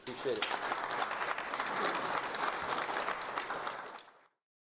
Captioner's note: audience Applauding